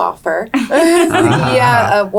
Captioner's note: laughing